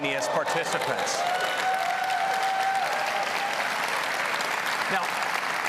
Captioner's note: applause